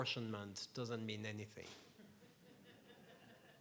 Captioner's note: laughs